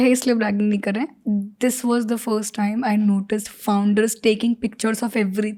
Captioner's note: speaks in Hindi